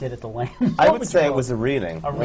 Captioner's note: laughs